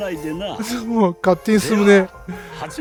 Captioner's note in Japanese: 笑い